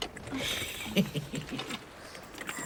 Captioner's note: laughs